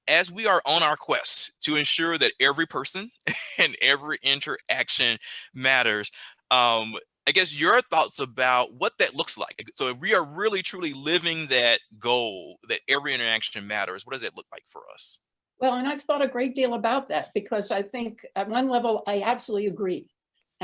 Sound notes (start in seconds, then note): 3.2 chuckles